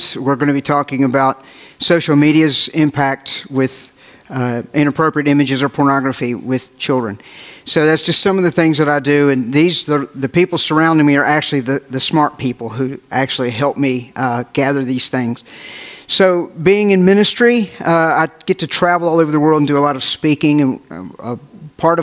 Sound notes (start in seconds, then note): none